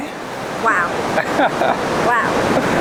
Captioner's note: laughs